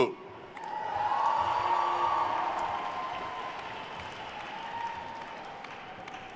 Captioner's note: attendees cheering and applauding